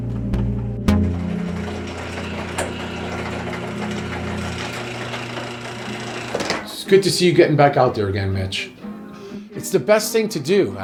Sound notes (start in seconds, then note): 0.9 garage door clanks